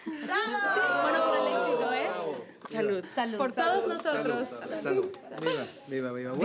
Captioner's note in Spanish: Exclamaciones